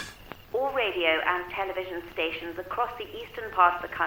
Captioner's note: radio Announcer